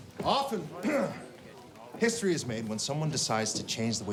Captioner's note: clears throat